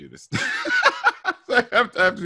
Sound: laughing

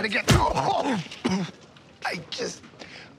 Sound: blow landing; coughing

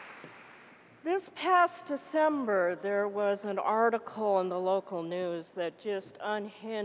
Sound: applause

